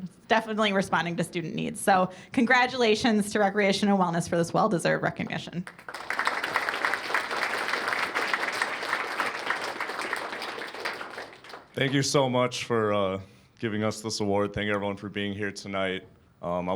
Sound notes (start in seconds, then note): 5.7 cheers and applause